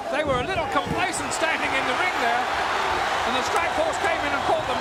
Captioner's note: audience cheering